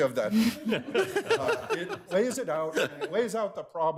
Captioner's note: all laughing